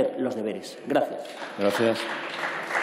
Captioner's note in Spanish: Aplausos